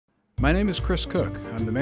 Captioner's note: voiceover